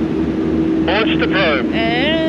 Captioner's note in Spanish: Man Over Radio